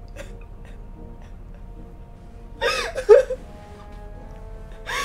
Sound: fighting for air

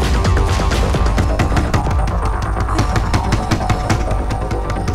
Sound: door knocking

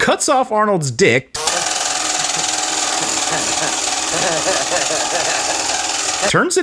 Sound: vibrating arnold noises

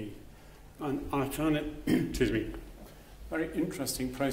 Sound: clears throat

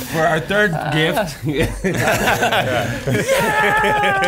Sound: laughing

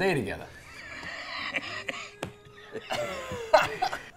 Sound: laughing

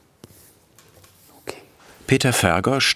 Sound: quietly

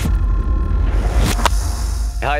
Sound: claps

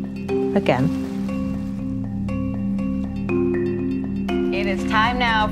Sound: waves

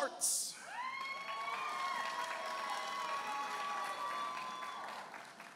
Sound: audience applauding and cheering

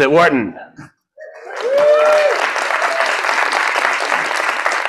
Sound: applause

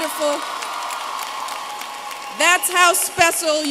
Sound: applause

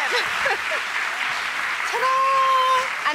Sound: applause

